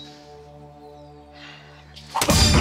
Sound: breathes deeply

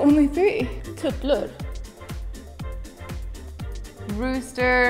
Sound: speaking in a foreign language

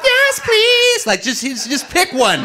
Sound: audience laughing

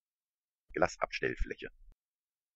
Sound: fast Pronunciation

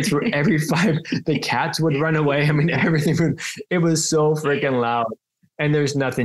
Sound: everyone laughs

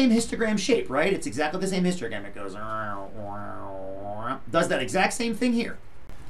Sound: makes noises to mimic the shape of curve

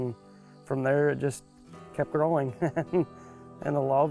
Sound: laughs

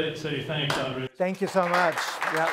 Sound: applause

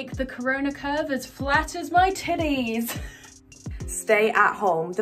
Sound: chuckles

